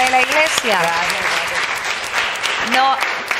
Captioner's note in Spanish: Aplausos